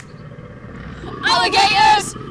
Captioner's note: roaring